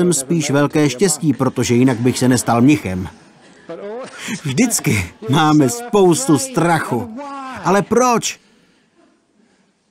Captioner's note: laughter